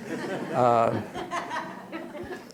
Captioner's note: laughter